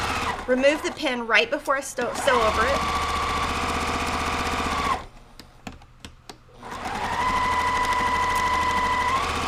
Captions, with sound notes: remove the pin right before I sew over it. (machine sewing)